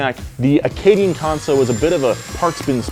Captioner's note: blender whirring